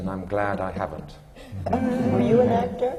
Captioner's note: laughter